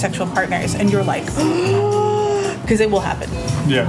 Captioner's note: exclaims